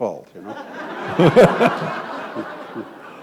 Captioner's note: laughter